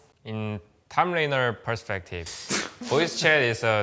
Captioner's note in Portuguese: risos